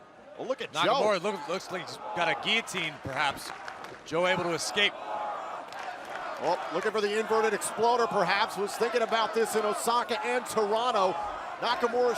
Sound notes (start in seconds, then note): 5.1 crowd cheering